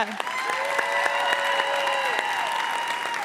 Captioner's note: cheers and applause